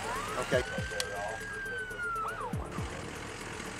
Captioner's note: siren wails